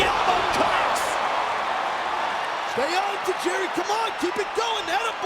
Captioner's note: audience cheering